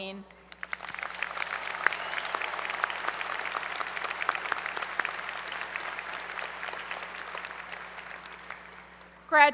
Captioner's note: applause